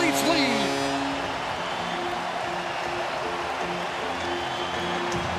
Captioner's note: cheering and Applause